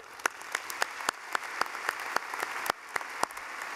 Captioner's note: clapping